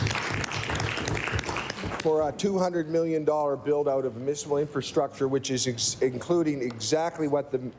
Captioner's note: some Applause